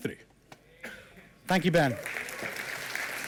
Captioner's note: applause